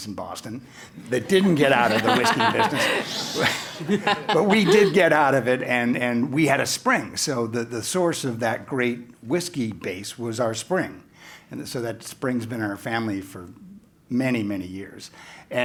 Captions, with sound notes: that didn't get out of the whiskey business. >> [LAUGH] >> Shh. >> But we did get out of it, and we had a spring. So the source of that great whiskey base was our spring. So that spring has been in our family for many, many years.